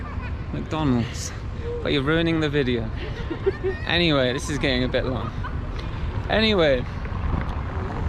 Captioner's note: haha!